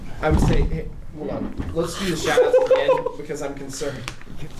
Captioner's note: fails to stand up properly, his friends laugh at him